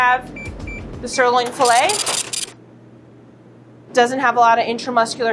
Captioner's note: scale beeps and brrhs